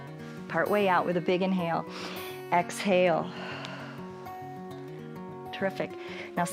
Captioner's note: exhales